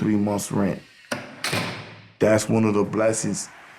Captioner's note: door slams